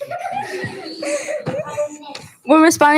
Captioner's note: students giggle